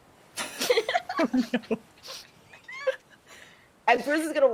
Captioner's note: people chuckling